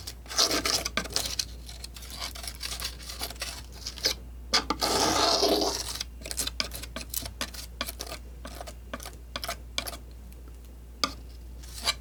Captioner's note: scratching